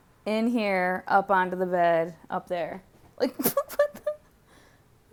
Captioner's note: laughs